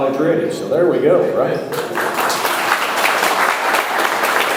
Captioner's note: audience applauding